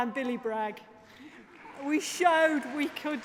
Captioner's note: applause